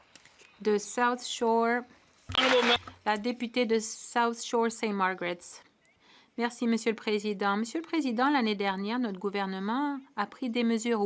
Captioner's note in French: voix de l'interprète